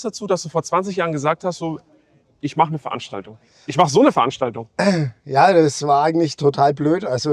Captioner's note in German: räuspern